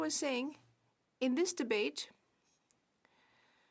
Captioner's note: speaking French